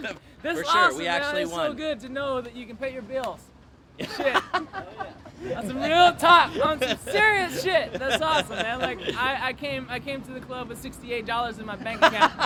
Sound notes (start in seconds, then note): 0.2 both laugh; 4.0 both laugh